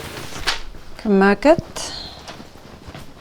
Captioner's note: in irish